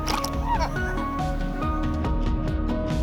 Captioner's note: laughs